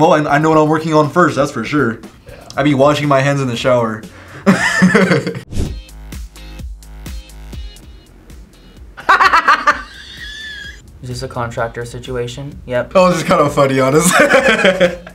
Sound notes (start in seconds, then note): 4.4 laughs; 5.7 upbeat music; 9.0 laughs; 14.0 laughs